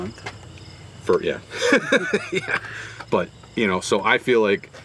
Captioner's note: laughs